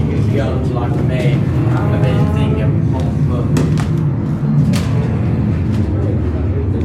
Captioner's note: aircraft engine